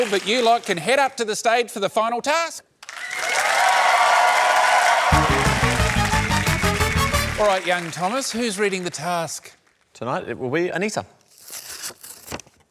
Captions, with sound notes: but you lot can head up to the stage for the final task. (CHEERING, APPLAUSE) Alright, young Thomas, who's reading the task? Tonight will be Anisa.